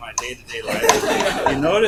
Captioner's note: laughter